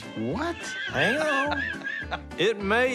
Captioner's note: laughing